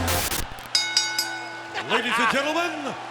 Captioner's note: bell dings